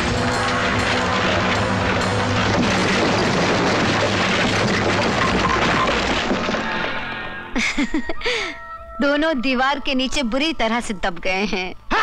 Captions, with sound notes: (Laughs) Both have got crushed under the wall.